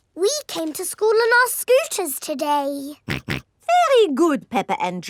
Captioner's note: snorts